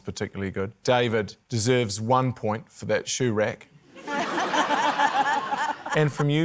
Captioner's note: laughter